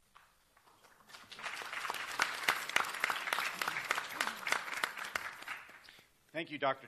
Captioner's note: applause